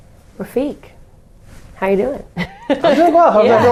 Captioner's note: laughing